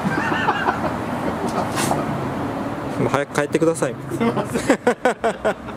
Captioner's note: laughs